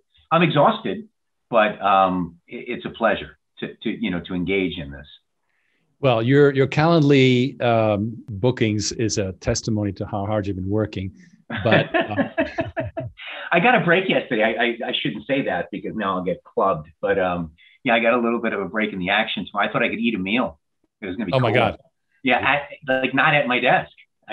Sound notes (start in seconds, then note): 11.5 chuckles